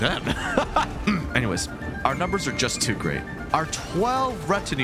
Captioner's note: clears throat